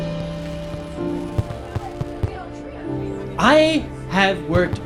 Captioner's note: fireworks booming